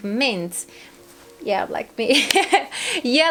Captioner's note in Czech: smích